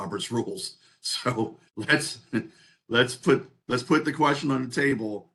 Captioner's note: laugh